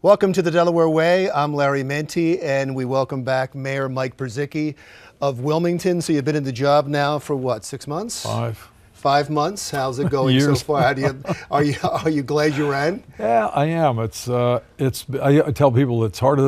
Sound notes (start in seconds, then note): 11.5 laughs